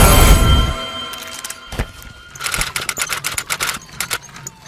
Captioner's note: crowd murmuring indistinctly